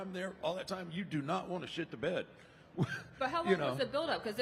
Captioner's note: laughs